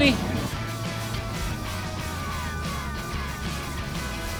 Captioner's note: jacket rustling